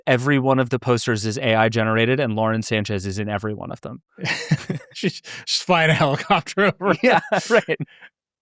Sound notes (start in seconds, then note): 4.2 laughing